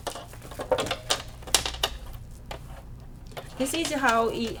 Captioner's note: pins clicking on table